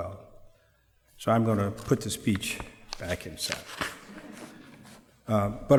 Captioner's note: laughter